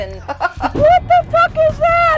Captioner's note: laughter